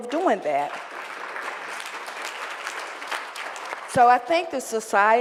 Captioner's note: applause